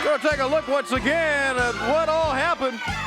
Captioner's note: crowd cheering